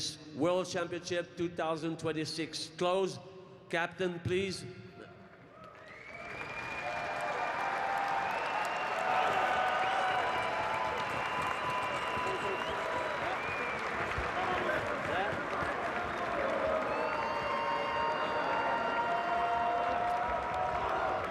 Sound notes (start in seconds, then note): 8.6 cheering and Applause